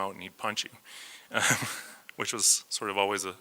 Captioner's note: laughs